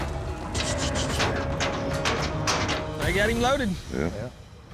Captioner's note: gate clanking